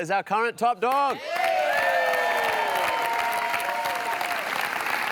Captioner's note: cheering and applause